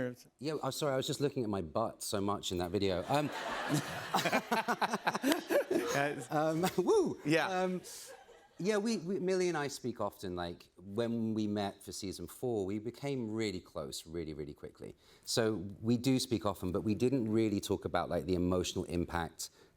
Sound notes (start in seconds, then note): 3.0 laughter